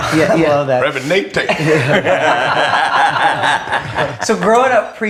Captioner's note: all laughing